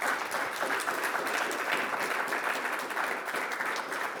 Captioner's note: audience applauding